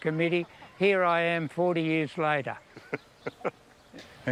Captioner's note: chuckles